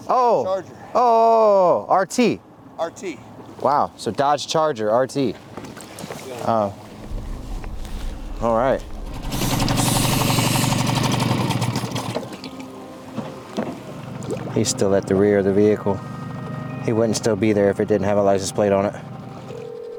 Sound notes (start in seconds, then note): 10.1 boat engine roaring then stops